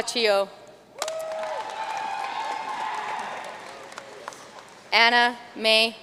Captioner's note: audience cheering and applauding